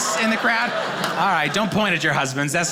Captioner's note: audience laughing